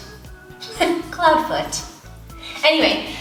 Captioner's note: giggles